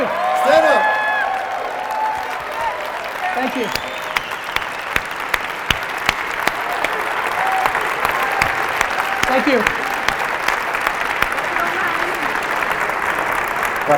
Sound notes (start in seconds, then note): 1.9 audience applause; 7.4 crowd